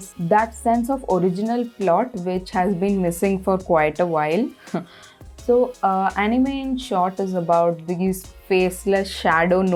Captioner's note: exale